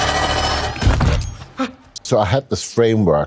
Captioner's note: gasps